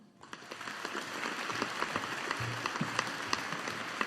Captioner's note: audience applauding